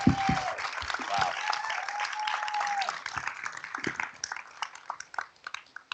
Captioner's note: applause